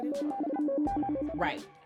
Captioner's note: phone ringing